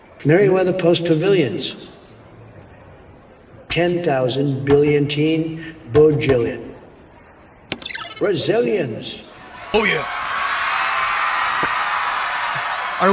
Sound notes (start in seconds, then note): 7.8 click; 9.3 crowd cheers; 12.2 spitting